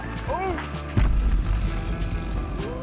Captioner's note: tree booms